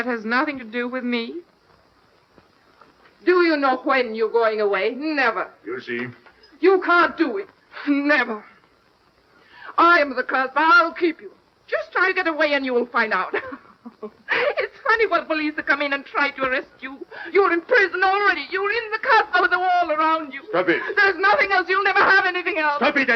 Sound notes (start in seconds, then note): 13.2 laughing